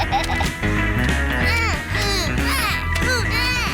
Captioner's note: snorts and laughs; both grunting